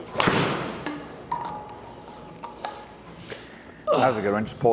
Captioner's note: golf club hits ball